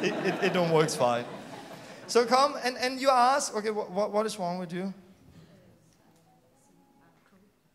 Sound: laughter

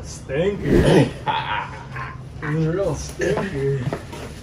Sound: laughter

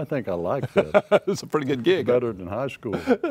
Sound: laughs

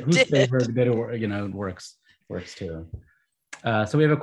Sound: group chattering; laughs

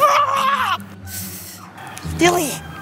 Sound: breath

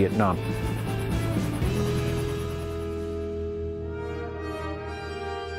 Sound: helicopter blades whirring; gentle music

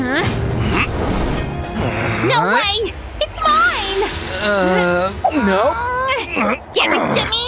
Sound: groans

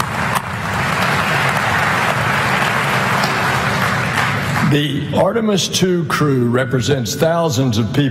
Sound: applause

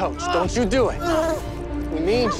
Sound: screaming

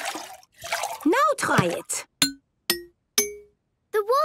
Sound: pitched tinks

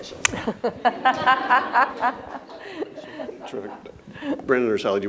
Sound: audience and panelists laughing

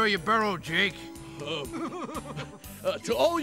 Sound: chuckling

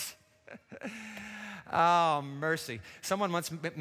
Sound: chuckles

